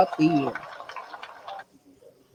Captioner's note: applause